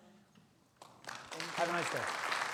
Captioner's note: attendees applaud